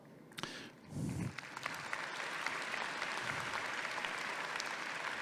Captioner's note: audience clapping